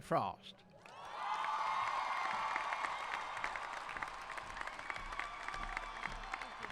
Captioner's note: applauding; cheering